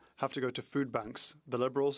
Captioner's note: speaking French